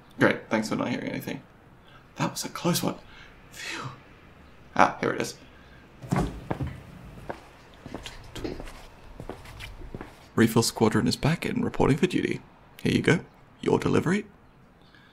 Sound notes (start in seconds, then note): 2.4 sarcastically; 6.0 footsteps